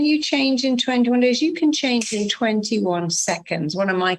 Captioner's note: finger snapping